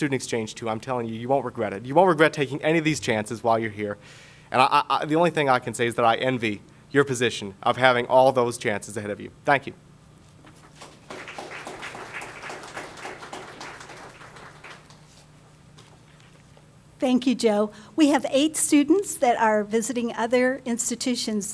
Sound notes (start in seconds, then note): 10.6 audience applause